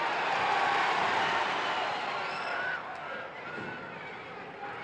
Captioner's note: crowd cheers